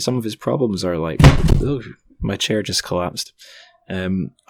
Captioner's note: crashing sound!